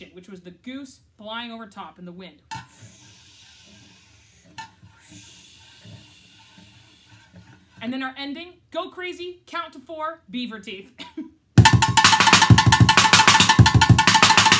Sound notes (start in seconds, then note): 2.6 rubs sticks on can; 11.6 fast drumming